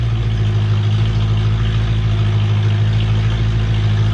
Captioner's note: car engine revving